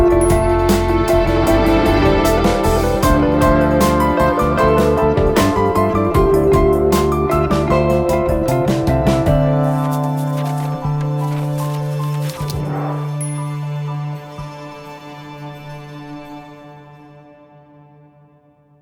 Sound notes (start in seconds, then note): 9.6 pages turn